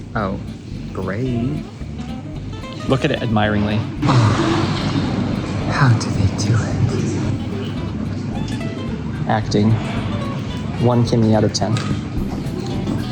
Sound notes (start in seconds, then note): 4.0 sigh